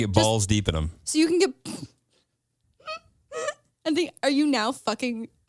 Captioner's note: laughs